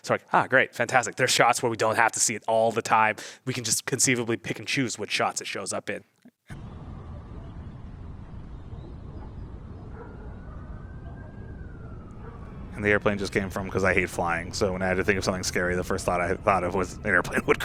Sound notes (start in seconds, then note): 13.0 siren wails